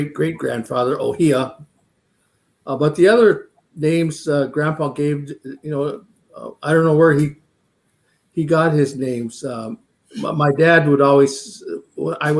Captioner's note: speaking Dakota